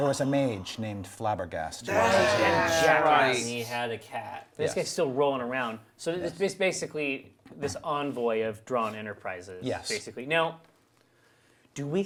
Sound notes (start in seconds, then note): 1.8 group sighs in remembrance